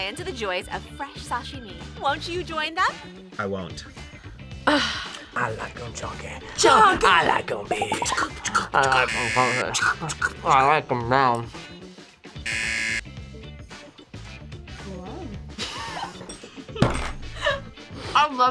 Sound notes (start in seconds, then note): 7.7 beatboxes; 9.0 buzzer; 12.4 buzzer; 15.6 both laugh